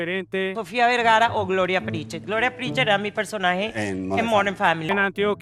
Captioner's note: Sofia Vergara's accent